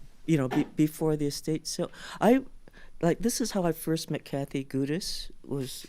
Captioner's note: none